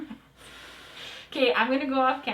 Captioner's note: laughing; blowing